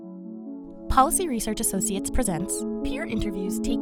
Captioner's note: soft music; voiceover